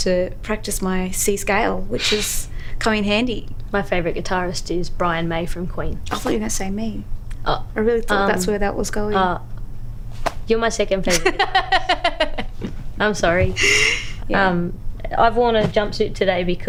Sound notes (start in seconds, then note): 13.4 laughs